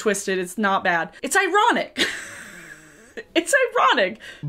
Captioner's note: laughs